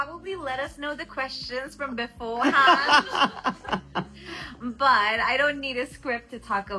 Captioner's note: loud laughter